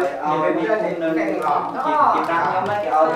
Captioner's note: chattering